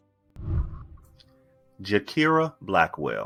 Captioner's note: whooshing